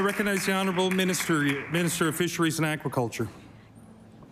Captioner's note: applause